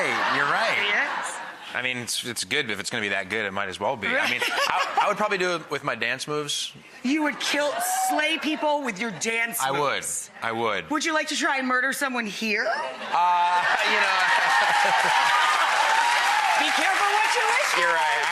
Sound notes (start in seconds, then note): 0.0 audience laughs; 5.0 Rachael laughs; 13.5 audience cheers and applause; 14.9 Matt laughs